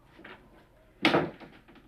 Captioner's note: door slams